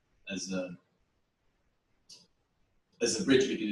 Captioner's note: pause